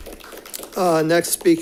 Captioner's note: audience applauding